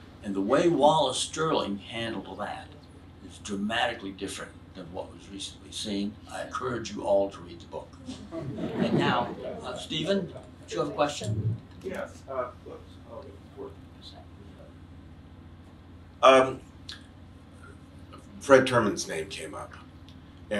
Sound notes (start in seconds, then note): 8.0 audience laughs